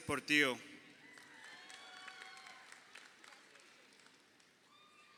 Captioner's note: crowd cheering